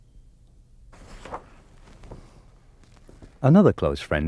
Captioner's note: page whips